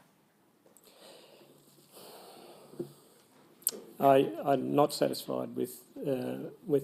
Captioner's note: sighs